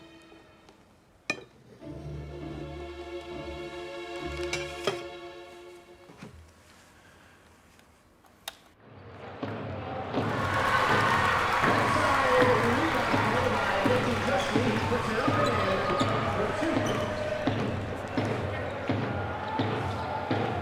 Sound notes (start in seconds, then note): 0.2 dramatic music continues; 10.4 audience cheering; 12.4 announcer faintly speaking; 17.9 lively music